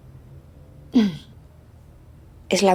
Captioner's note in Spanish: carraspeo